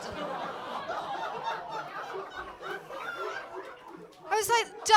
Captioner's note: audience laughing